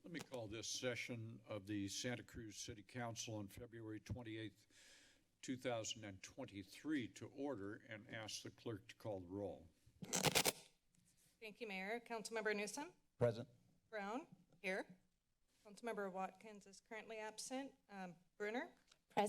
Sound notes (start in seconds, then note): 10.0 static sound